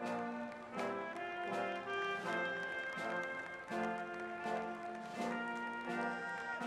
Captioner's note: applause